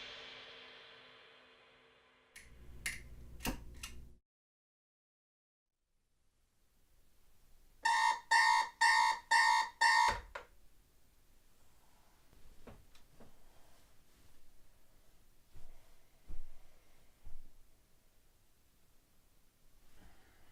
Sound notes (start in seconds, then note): 7.8 alarm clock goes off, clock reads 7 AM